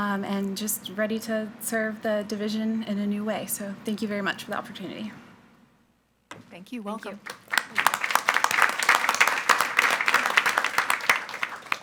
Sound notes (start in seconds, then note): 7.2 attendees applauding